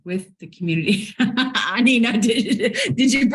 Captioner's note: laughs